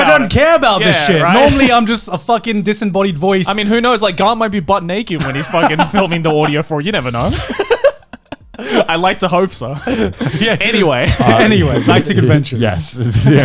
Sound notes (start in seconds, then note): 5.1 laughing